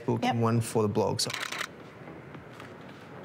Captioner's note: shutter clicks